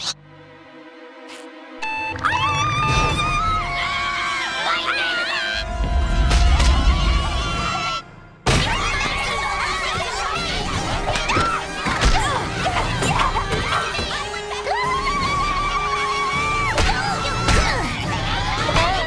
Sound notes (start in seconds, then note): 1.8 alarm beeping; 2.2 screaming